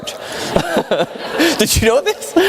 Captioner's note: audience laughing